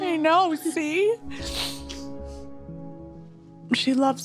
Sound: sniffles

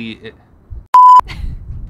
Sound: note beeps; chuckles

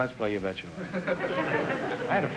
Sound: audience laughter

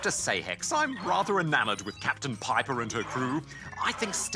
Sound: robotic speech

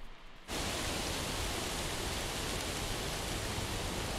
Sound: wind gusting

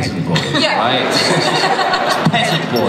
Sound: laughter

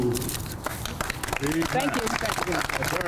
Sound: applause

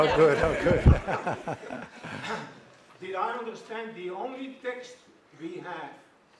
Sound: laugh

